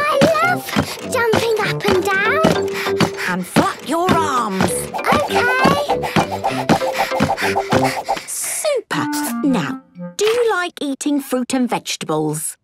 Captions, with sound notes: - I love jumping up and down! (panting) - And flap your arms. - Okay! (panting) - Super! Now, do you like eating fruit and vegetables?